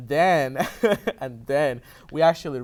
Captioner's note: laughter